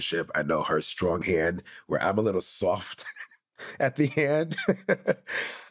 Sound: chuckles

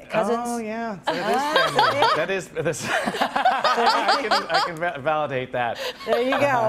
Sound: laughing

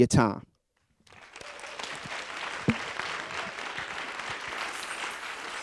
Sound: audience applauding

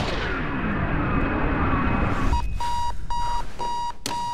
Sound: gunshot; alarm clock beeping

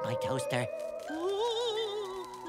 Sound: moaning

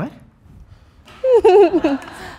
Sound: giggling

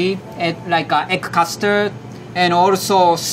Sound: text chiming

